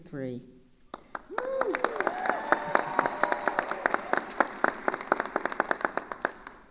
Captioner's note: attendees cheering and applauding